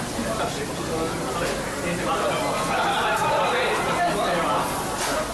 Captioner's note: laughs